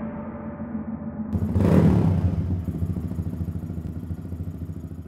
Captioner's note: engine revving